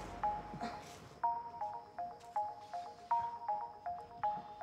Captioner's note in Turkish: Telefon çalıyor